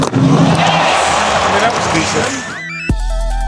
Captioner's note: dramatic music; fans cheering; upbeat music